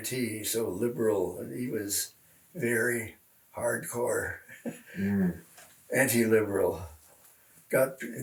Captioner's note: laughs